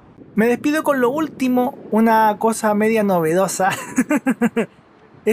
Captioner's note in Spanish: risas